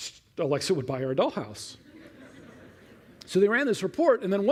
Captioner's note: laughter